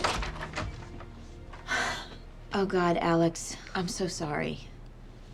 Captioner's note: exhales